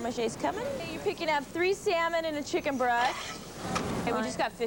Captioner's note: plates clinking